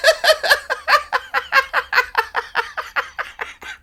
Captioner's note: laughing